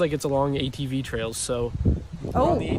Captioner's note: wind blowing